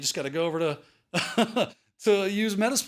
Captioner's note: chuckles